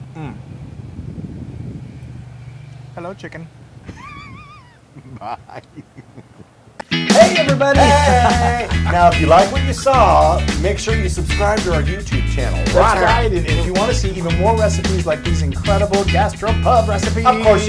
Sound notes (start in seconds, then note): 3.8 laugh